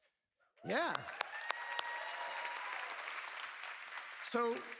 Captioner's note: cheers